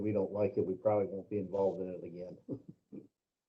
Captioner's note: laughter